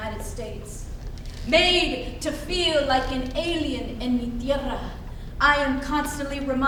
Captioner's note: speaks foreign language